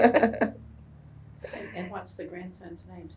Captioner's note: laughter